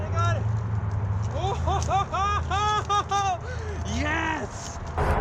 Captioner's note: laughs